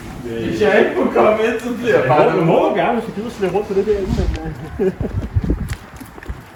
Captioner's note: joking chatter